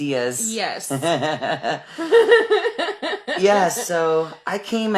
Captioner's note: laughing